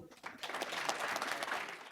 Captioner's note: applause